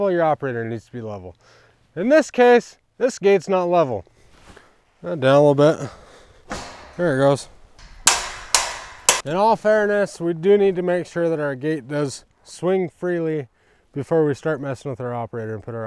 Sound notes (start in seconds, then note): 6.4 gate thudding; 8.3 metal clanging